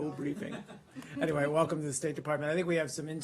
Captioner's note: laughter